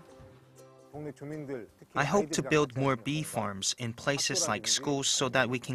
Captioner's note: Korean